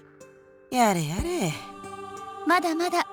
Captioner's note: disappointed sigh